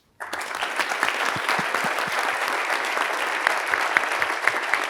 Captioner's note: audience applauds